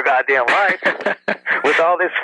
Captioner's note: laughs